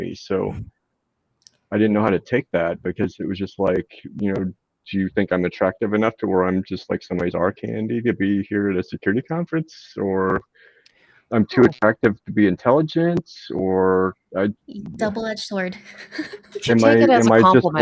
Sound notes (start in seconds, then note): 15.8 laughs